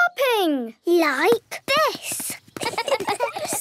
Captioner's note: laughs